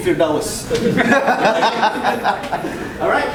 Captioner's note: audience laughing